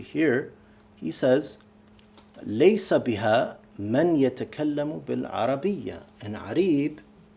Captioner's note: speaking arabic